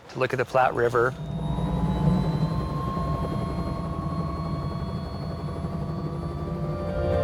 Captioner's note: helicopter taking off